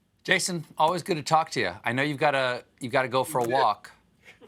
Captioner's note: laughter